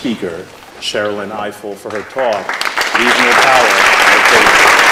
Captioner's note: applause